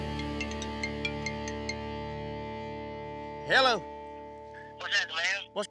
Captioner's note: cell phone rings